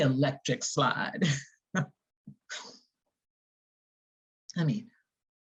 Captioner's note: chuckling